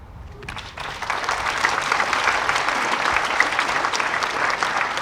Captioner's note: audience applauding